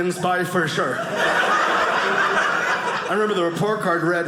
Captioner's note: audience laughing